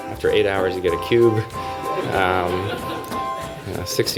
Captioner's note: laughter